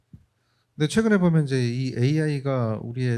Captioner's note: speaking korean